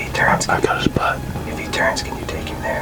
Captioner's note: whispering